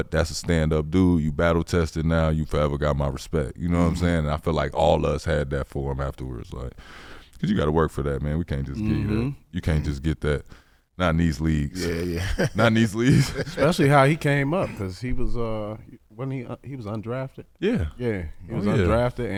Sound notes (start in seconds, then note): 11.7 laughing